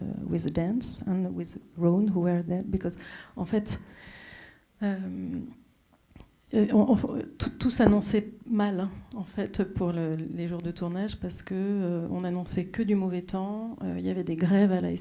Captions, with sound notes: with dance and with Rone who were there because... [speaking French]